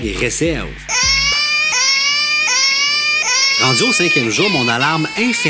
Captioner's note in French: pleurs de bébé